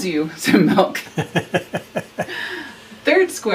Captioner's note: both laugh